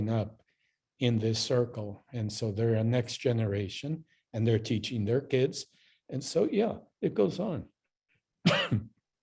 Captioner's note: coughs